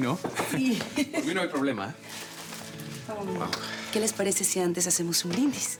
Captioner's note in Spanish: Risas